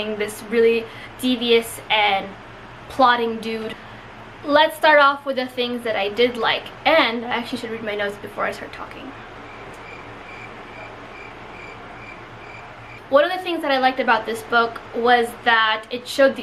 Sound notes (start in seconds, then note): 9.4 crickets chirping